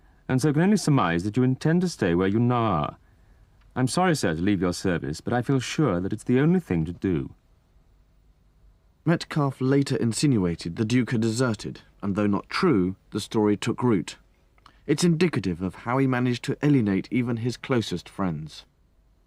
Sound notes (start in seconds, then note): 3.9 voiceover